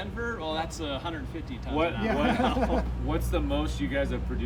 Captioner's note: man laughing